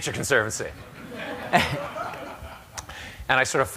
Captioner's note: laughter